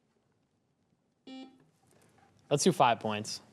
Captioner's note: buzzer buzzing